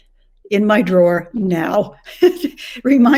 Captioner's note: chuckles